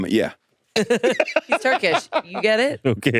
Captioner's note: all laughing